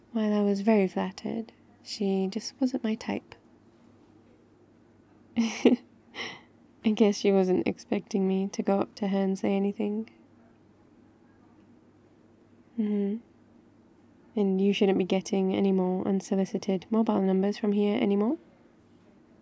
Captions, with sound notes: "while I was very flattered she just wasn't my type" *laughs* I guess she wasn't expecting me to go up to her and say anything mmhmm and you shouldn't be getting any more unsolicited mobile numbers from here anymore